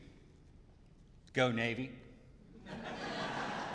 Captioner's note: laughter